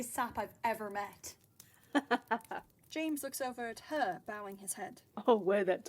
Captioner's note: James laughs